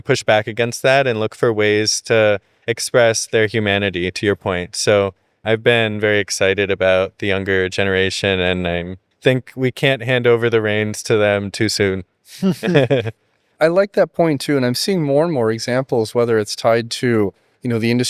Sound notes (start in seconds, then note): 12.3 both laughing